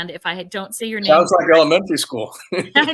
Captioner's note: laughs